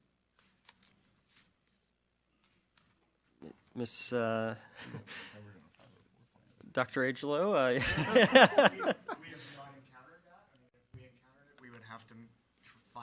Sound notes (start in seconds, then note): 7.8 all laugh